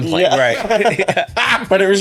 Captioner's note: laughing